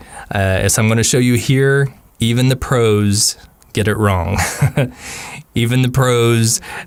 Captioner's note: haha